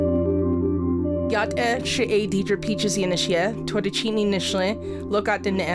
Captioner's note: speaks foreign